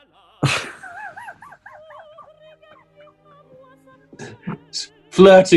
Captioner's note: chuckling